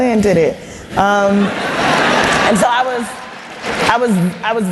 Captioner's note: laughter and Applause